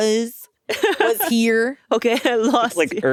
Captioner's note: Atsuko laughing